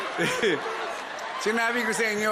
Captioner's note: chuckles